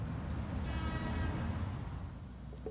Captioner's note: car horn honks